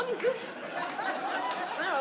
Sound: audience laughs

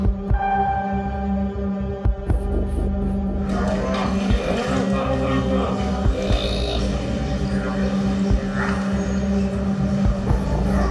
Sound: prayer sounds

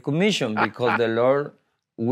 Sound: laughs

